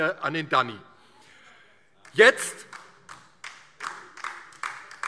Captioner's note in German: Beifall DIE LINKE